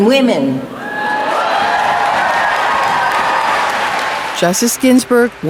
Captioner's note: audience cheering